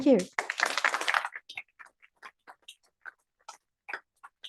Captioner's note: applause